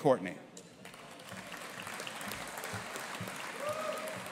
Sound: audience applauding

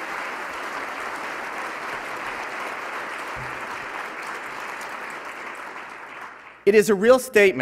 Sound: applause

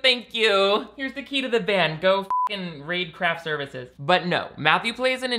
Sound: beep

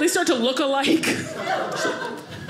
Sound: audience laughing

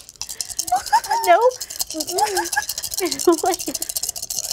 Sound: dice clatter

